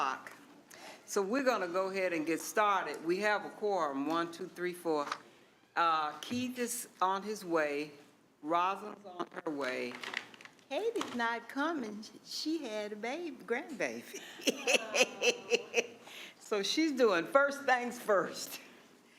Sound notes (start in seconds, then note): 14.1 laughing; 14.2 others "aww"ing